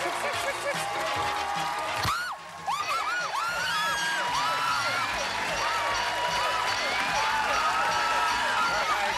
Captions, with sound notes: Trix, Trix, Trix, Trix. (screams) (bell dinging, alarm whooping) (both screaming)